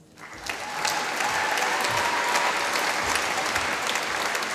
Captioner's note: applause